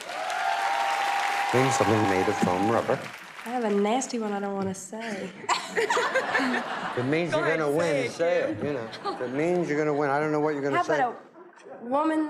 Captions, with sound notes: [ Cheers and applause ] Name something made of foam rubber. I have a nasty one I don't want to say. [ Laughter ] If it means you're gonna win, say it, you know. Go ahead, say it, Kim. If it means you're gonna win -- I don't know what you're gonna say -- How about a...